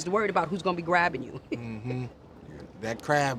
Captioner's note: chuckles